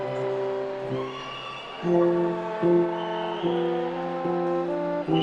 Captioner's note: attendees cheering